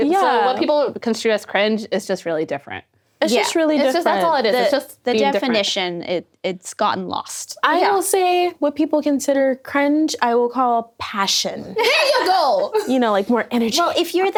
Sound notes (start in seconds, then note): 11.7 all laughing